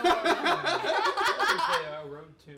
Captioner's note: laughing